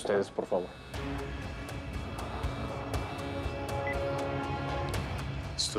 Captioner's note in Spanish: Continúa sonando el celular